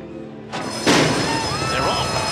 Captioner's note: bell rings